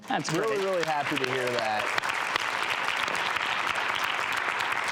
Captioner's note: audience clapping